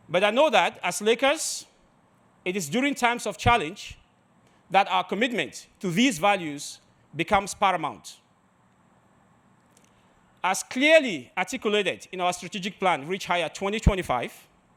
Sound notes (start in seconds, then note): none